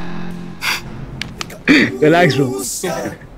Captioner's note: Laughs